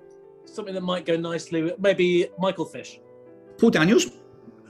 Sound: none

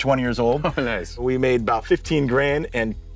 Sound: laughs

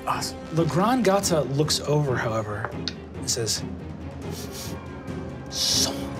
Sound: sniffs

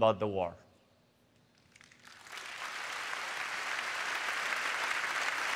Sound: applause

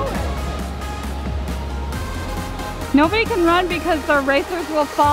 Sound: all mumbling

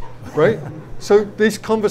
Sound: audience laughs

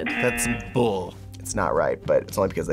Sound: buzzer rings

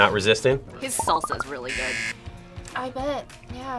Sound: buzzer

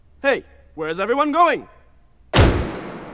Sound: door slams

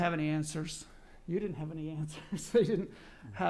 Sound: laughs

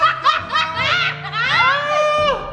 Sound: laughs

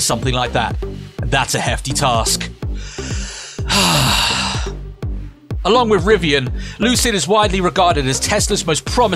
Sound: sighs

